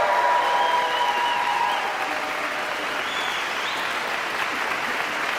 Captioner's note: audience member whistles